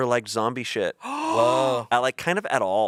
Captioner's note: gasps